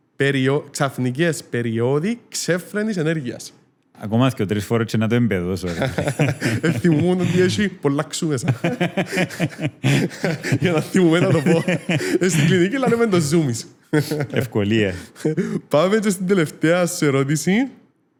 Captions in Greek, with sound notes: περιο-- ξαφνικές περίοδοι ξέφρενης ενέργειας. Ακόμα δύο, τρεις φορές και θα το εμπεδώσω. -[γέλια] -Θυμόμουνα ότι έχει πολλά "ξου" μέσα. [γέλια] Για να θυμάμαι να το πω. Στην κλινική, το λέμε zoomies. -Ευκολία. -Πάμε και στην τελευταία σου ερώτηση.